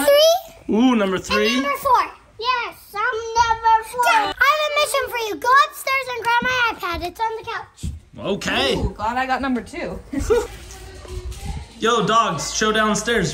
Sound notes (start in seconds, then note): 11.0 chuckling